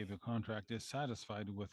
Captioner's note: speaking French